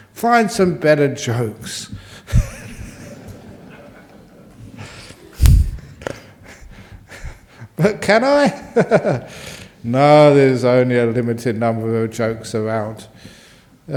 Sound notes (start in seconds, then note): 2.3 laughs